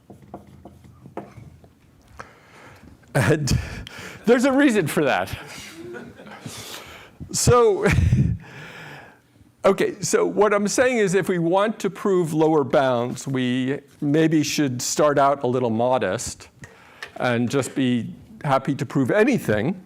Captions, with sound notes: And there's a reason for that. [LAUGHTER] So what I'm saying is, if we want to prove lower bounds, we maybe should start out a little modest and just be happy to prove anything.